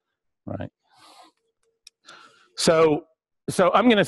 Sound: pause

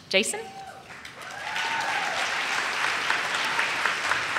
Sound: audience cheers

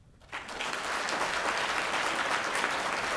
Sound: applause

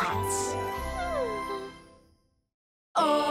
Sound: sighs

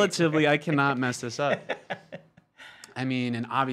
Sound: laughs

